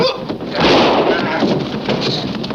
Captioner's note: clunking; gasping; gun shot